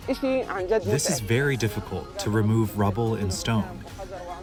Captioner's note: through translator